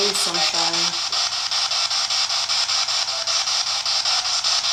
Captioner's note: static